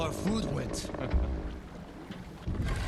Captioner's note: laughs